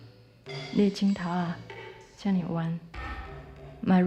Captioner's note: speaking Taiwanese